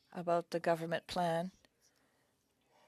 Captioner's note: speaking French